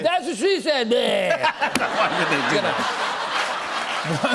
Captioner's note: laughter